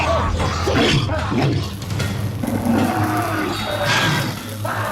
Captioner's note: electricity crackles